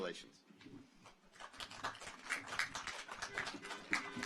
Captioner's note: audience applauds; car horns honking